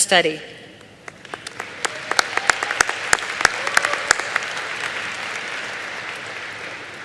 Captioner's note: applause